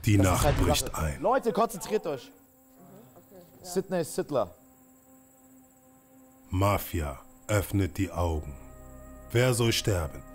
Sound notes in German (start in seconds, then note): 4.8 Grillenzirpen